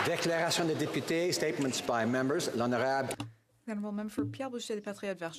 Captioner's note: some Applause